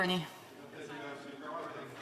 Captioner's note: speaking French